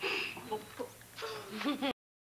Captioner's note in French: Petits rires